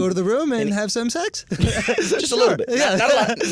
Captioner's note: laughter